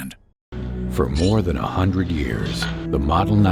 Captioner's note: voiceover